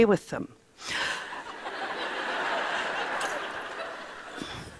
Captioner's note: laughter